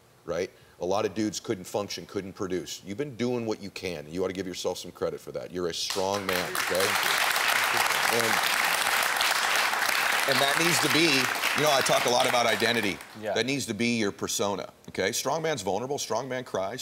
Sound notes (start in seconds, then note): 5.9 audience applauding